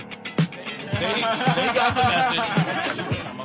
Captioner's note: laughing